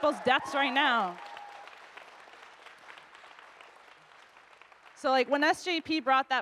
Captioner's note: audience cheers and applauds